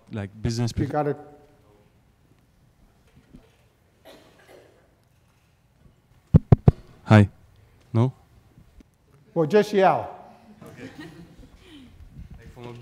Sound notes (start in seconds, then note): 6.3 tapping on microphone; 10.6 laughter